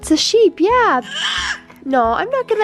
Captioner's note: yells